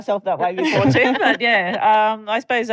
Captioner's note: laughter